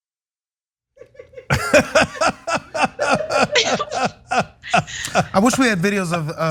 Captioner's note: laugh